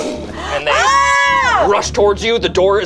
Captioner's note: group screams